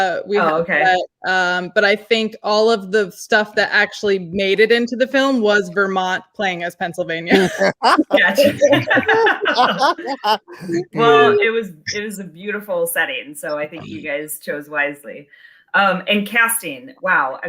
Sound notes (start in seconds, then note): 7.3 laughing